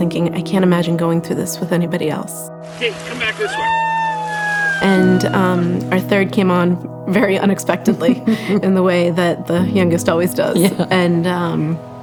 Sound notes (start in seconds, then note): 4.8 cheers; 10.4 chuckling